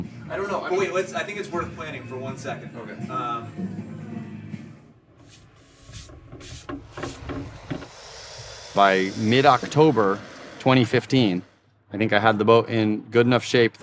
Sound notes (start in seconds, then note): 5.2 hand sweeping; 5.6 torch hissing